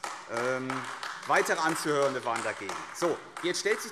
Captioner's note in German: Beifall AfD